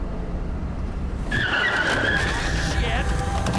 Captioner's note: tires screeching